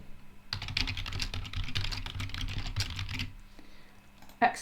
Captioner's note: types loudly